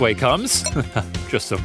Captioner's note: laughing